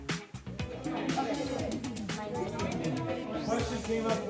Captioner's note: ambient chatter